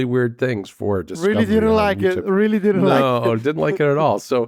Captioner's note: laughs